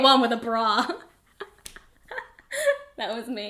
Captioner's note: both laugh